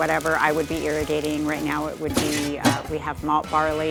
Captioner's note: metal clanking